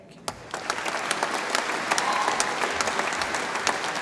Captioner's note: audience applauds